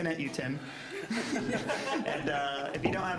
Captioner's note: all laughing